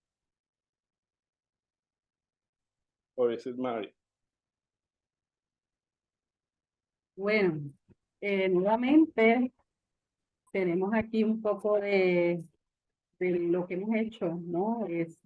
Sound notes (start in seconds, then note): 8.0 speaking Spanish